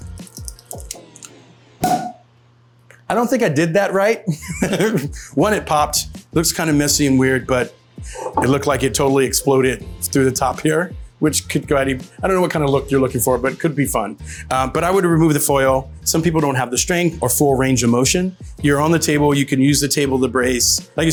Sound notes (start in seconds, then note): 1.8 bottle popping